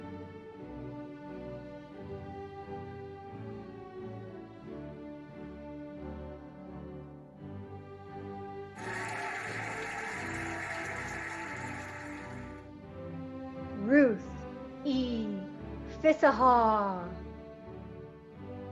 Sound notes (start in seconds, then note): 0.3 cheerful music; 8.8 cheering and applauding